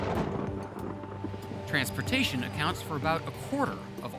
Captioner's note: thunderclap